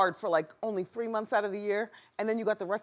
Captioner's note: none